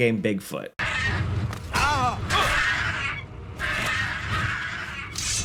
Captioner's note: goblins yelling